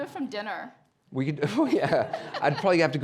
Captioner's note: chuckles